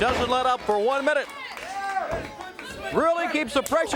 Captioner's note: crowd cheering